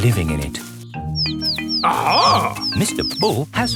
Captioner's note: chirping